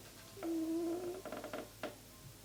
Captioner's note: cat snoring